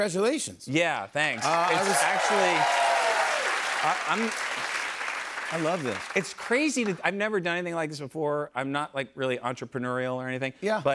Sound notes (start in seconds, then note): 1.3 cheers and applause